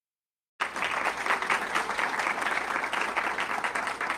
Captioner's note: audience clapping